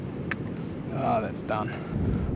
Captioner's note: painful sound of snapping line